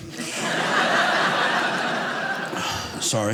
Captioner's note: audience laughing